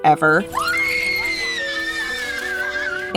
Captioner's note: screaming